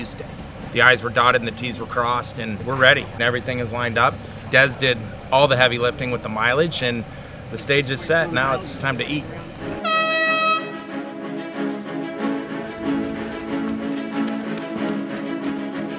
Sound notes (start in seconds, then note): 8.0 race horn; 9.5 dramatic music